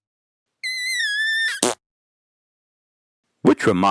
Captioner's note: squeaking